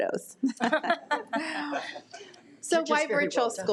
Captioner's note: attendees laugh